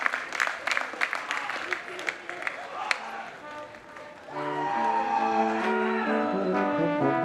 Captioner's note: applause